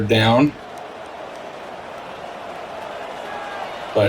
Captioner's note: crowd cheering